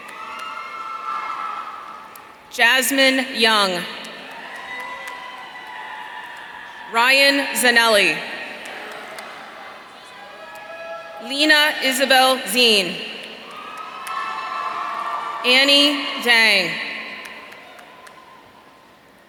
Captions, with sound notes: Jasmine Young. (audience cheering) Ryan Zanelli. Lina Isabelle Zein. (audience cheering) Annie Zhang.